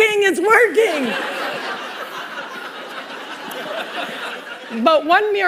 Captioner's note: laughter